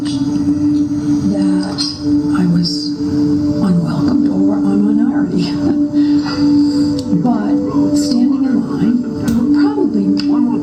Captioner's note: female voice in English